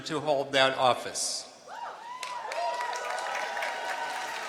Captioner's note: cheering